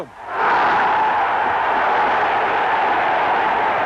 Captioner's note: crowd roaring